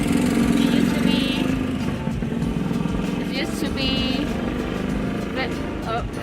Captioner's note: motorbike engine roaring